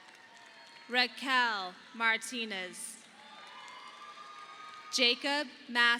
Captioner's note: audience applauding